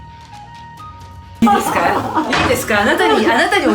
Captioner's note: laughing loudly